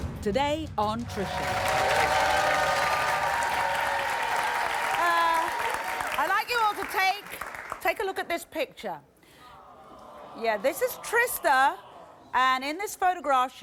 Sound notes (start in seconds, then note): 1.1 audience cheering